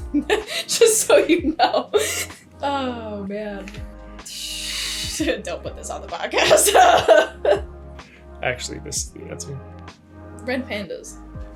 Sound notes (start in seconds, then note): 6.4 nervous laughter